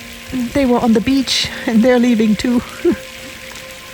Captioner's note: laughs